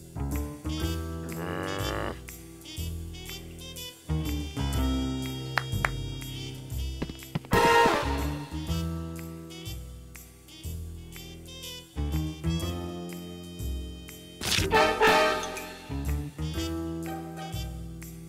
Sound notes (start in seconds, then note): 1.2 growls; 5.5 claps